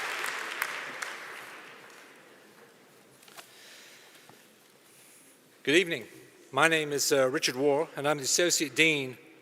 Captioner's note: applause